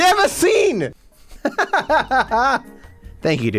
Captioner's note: laughs